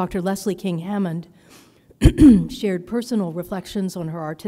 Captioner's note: clears throat